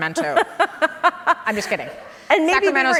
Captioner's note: laughs